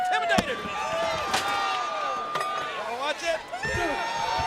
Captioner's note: objects clatter